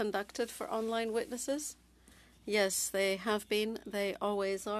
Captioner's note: speaking French